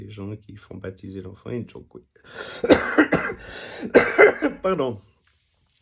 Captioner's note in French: toux